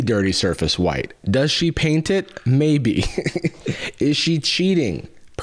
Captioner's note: laughs